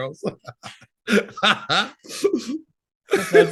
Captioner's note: laughing